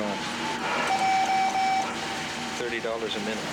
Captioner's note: beeping